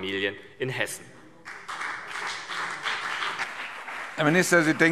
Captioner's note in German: Beifall CDU und BÜNDNIS 90/DIE GRÜNEN